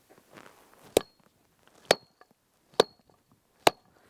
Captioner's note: tool thudding